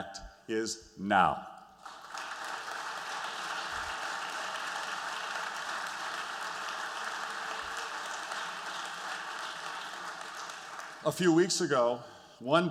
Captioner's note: applause